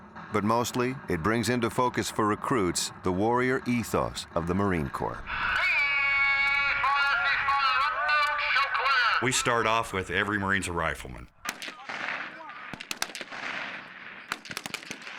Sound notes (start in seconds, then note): 5.8 loud instructions; 11.4 gun shots firing